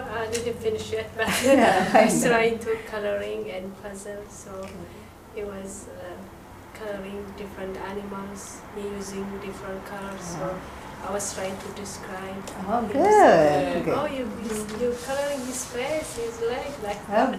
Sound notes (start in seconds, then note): 12.7 voiceover